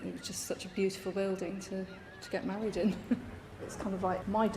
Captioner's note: laugh